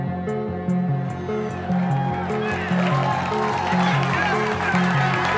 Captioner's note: gentle suspenseful music; audience cheers and applauds